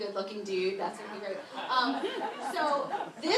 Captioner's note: laughter